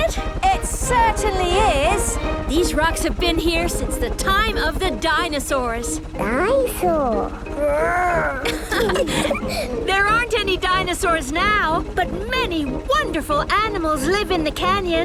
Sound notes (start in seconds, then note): 6.1 laughing